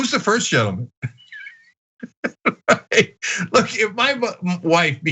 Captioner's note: laugh